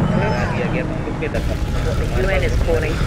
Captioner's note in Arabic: صوت تأجج النيران وأصوات احتراق